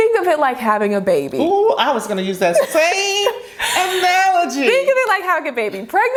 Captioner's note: laughs